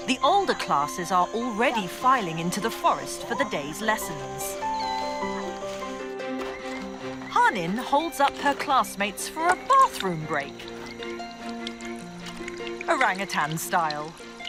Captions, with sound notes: the older classes are already filing into the forest for the day's lessons. (bright upbeat music) Hanin holds up her classmates for a bathroom break. (water rustling) Orangutan style.